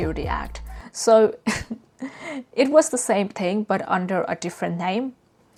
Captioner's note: laughs